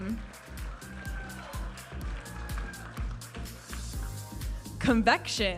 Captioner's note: audience applauding and cheering